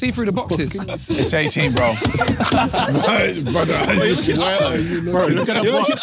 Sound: everyone laughing

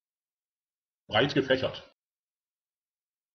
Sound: fast Pronunciation

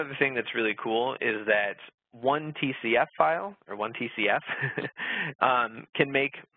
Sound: laughs

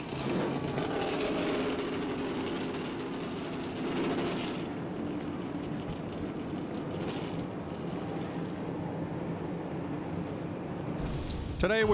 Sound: cheers and applause

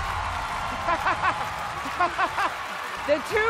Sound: laughing

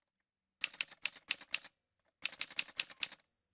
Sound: typewriter sounds

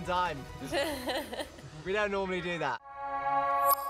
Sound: laughing

